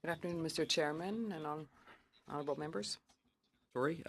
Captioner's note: speaking French